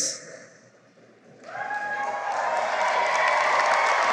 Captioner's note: cheering and applause